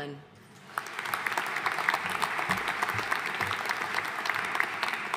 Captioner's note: audience applauding